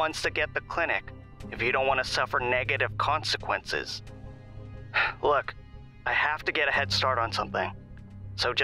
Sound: sigh

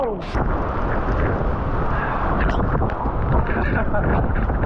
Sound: wind whipping

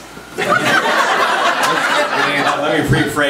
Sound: group laughs

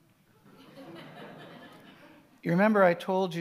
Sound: audience laughing

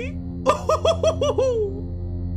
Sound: more evil laughter

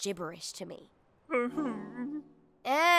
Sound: moans

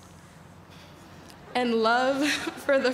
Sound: exhales

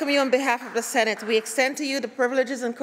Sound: applause

